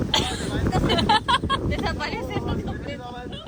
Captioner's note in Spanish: Risas